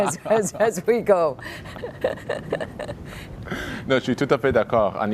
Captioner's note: laughter; speaking in French